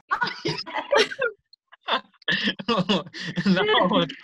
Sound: laughter

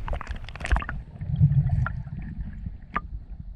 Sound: water bubbling

